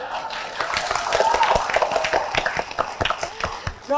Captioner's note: applause